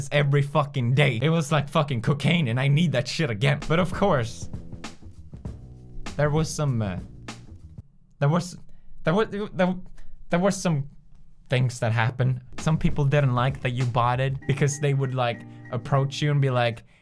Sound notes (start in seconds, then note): 9.1 stutter